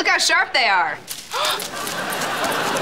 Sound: gasps

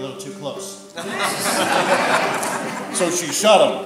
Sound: audience laughter

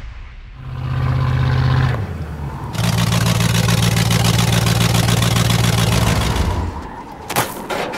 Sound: vehicle engine sound

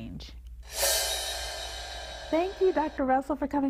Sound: footage whooshes

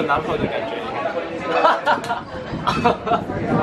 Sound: laughing

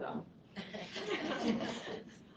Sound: laughter

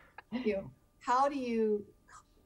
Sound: everyone chuckling

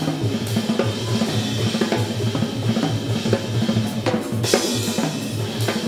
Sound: audience member cheers

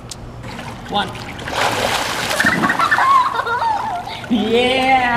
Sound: laughing

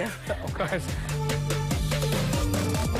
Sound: laughter

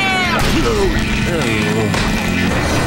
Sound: screaming; groaning

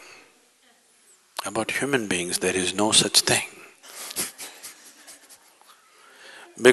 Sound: laughs

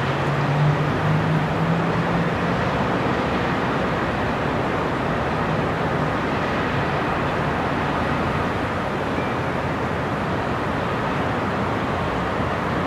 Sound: sound of distant cars and city noises

